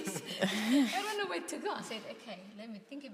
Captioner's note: participants laugh